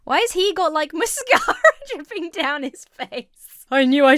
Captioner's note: laughs